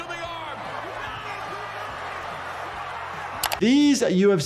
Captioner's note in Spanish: multitud charlando